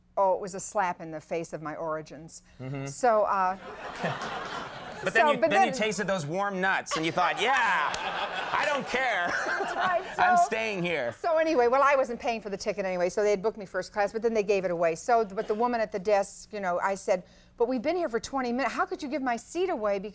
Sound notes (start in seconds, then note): 3.6 audience laughing; 6.9 all laughing